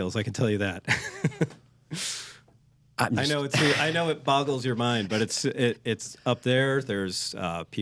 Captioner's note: laughs